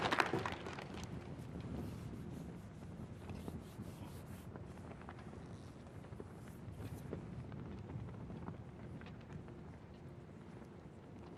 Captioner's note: applause